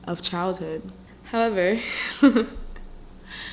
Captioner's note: chuckles nervously